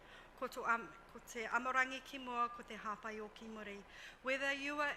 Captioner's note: speaks foreign language